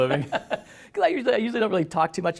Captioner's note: laughter